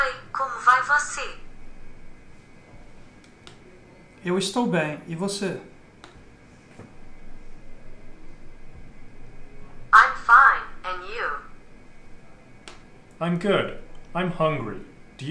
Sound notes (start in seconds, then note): 0.1 translator device speaking in foreign language; 4.1 speaker 2 speaking in foreign language